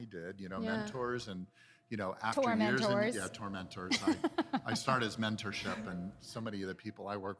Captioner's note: laughter